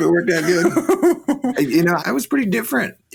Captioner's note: laughing